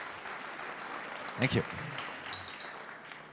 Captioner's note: applause